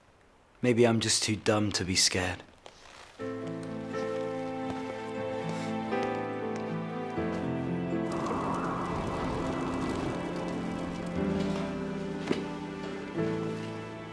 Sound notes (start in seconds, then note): 3.7 slow soft music; 7.4 wind blowing; 8.4 fire crackling